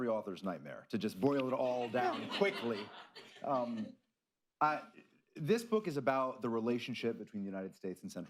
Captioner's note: laughter